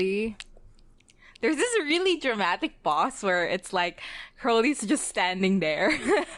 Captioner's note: laughs